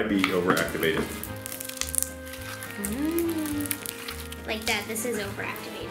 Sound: slime crackling

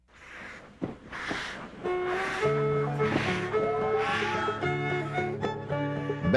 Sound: music and steam engine sounds

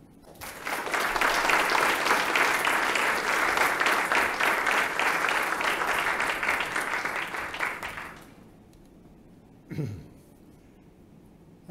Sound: applause

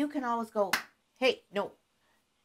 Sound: claps hands

